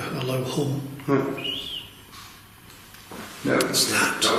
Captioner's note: whistles